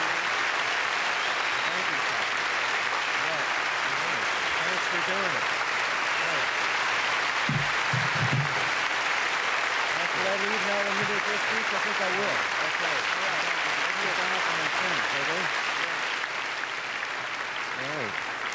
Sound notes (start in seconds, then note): 0.2 applause; 8.3 applause continue; 15.6 applause; 17.9 applause fade